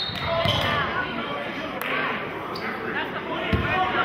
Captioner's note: whistling